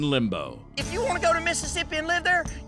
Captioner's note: angrily shouts